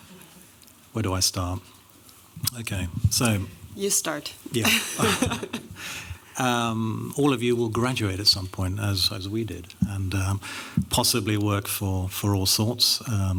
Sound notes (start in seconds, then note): 4.6 laughing